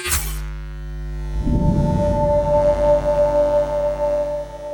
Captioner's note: electric humming